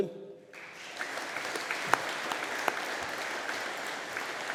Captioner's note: audience applauding